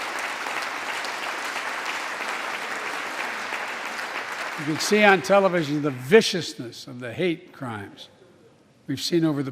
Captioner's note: applause